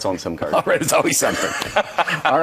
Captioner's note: laughing